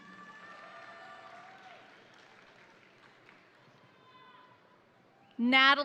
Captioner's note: crowd applauding; crowd cheering